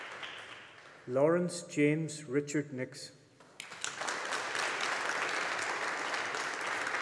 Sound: audience applauding

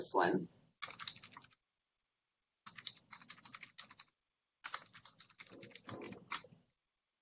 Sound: typing

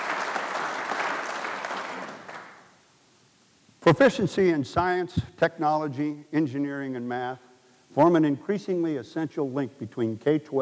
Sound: applause

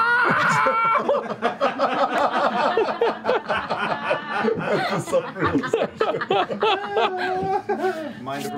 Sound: laughter

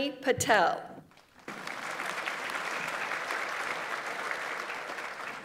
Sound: audience applauds

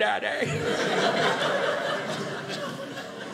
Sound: audience laughing

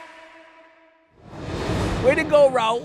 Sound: air whooshing

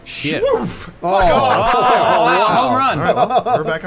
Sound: laughter

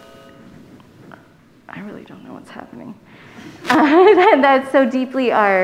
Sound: microphone buzzing

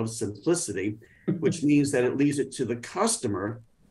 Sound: laughing

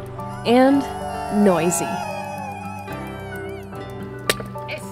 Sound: birds chirping; reeling of fishing line; friends shout excitedly; friends chatting

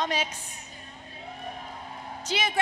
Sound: applause, Cheering

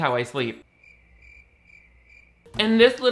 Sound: crickets chirping

